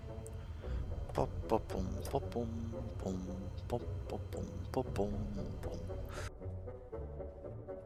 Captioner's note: bored humming intensifies